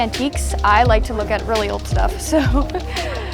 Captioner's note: laughs